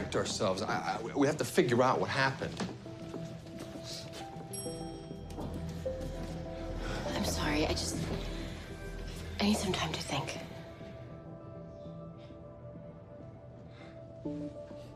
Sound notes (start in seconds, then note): 4.5 elevator bell dings